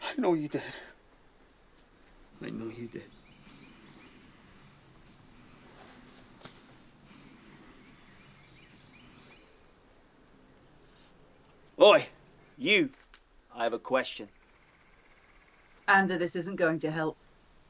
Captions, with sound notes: - I know you did. I know you did. (birds chirping) Boy, you, I have a question. - Ander this isn't going to help.